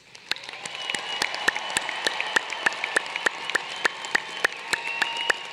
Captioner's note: applause